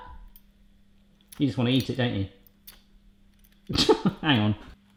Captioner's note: laughs